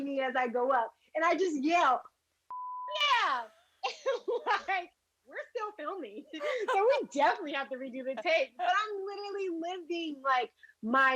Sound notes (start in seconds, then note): 6.3 laughs